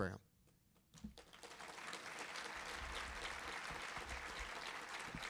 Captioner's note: audience applauding